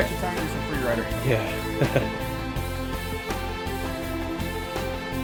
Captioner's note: voiceover; mellow electronic music